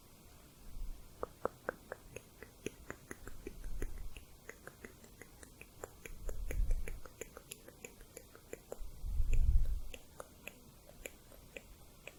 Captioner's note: tongue clicking